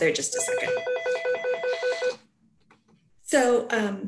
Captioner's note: phone ringing